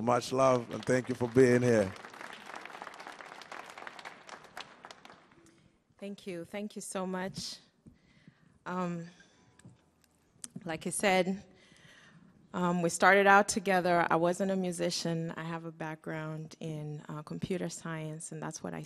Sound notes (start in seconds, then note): 2.9 audience clapping